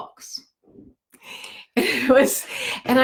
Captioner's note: laughs